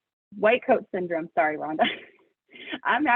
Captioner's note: laughs